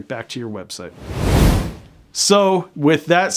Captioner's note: air whooshing